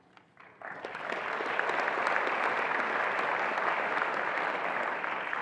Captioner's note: attendees applauding